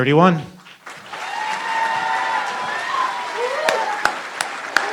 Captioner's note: applause